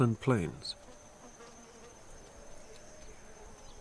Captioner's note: flies buzzing